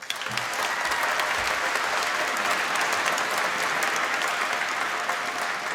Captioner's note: applause